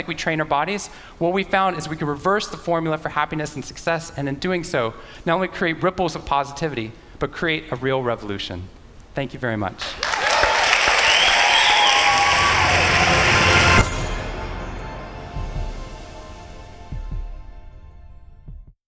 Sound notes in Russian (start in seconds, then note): 9.8 Аплодисменты